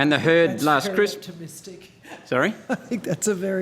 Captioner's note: laughing